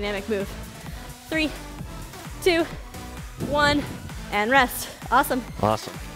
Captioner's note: panting